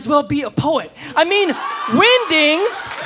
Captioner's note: audience cheering